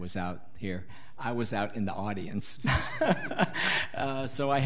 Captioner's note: laughs